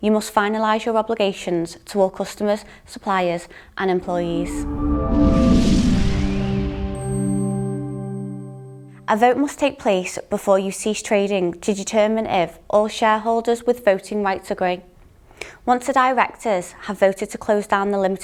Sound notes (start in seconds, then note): 4.0 upbeat swooshing sound